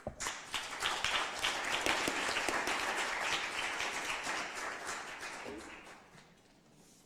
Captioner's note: applause